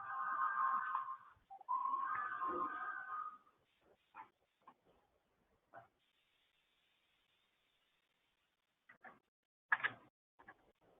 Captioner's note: silence